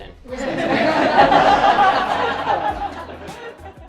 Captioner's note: group laughs